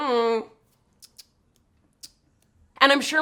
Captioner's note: clicking tongue